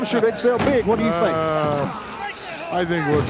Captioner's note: gorilla sighing